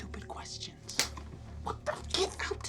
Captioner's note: hand slaps